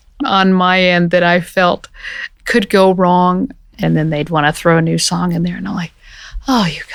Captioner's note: sighs